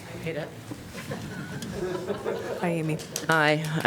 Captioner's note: laughter